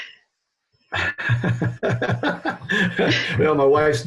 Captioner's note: laughing